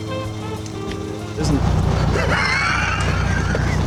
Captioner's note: jeremy laughs